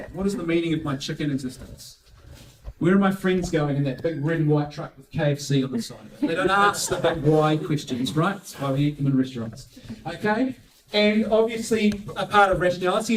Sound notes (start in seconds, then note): 5.7 laughing